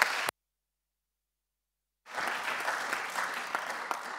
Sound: applause

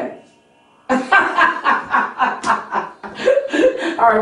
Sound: laughing

